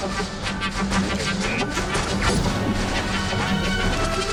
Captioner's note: laser blast sounds